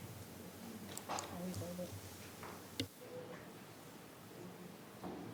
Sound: speaking faintly

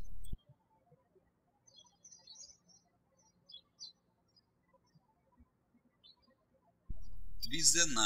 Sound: bird chirping

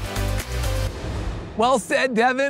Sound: transition whooshing

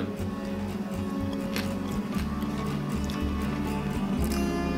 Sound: seeds crunch

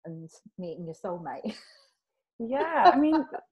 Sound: laughs

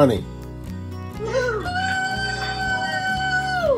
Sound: cheering

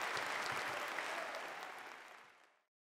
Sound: applause

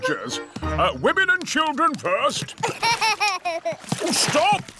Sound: laughs

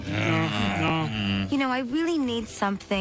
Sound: groans

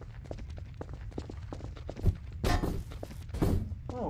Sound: footsteps; object sounds

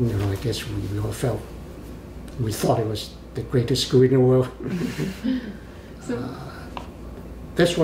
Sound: laughs

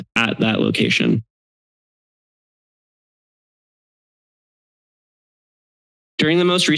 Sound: silence

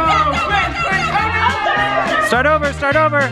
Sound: group yells; upbeat silly music

